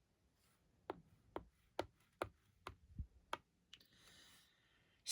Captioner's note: sound of tapping as the kitty moves